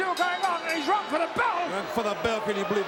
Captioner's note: bell ringing